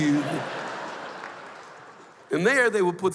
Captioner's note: laughter